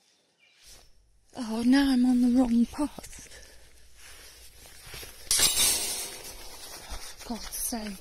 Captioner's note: gate bangs